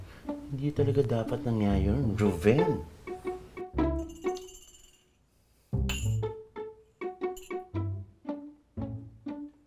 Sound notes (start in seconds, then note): 4.0 utensils clinking